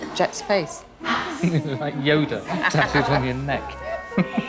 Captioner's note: pet owner laughs